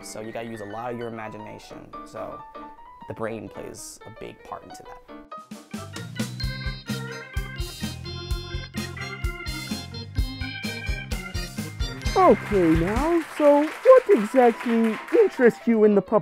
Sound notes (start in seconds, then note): 5.4 upbeat music; 11.8 audience applauds; 15.1 upbeat music